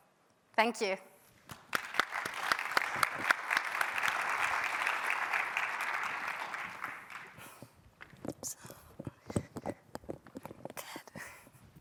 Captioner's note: applause